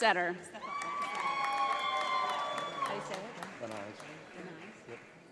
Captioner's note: audience applauds